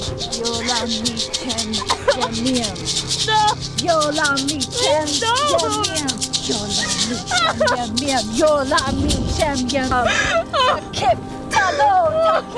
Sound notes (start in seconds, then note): 0.0 shaking shaker; 0.2 chanting in a foreign language; 7.1 sobbing